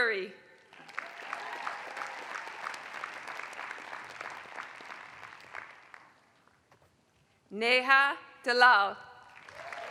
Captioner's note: applause; applause